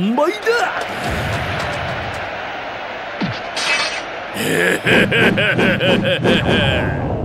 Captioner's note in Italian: grida di eccitazione